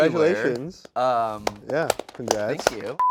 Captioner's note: hosts applauding